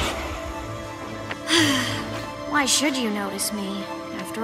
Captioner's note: sighs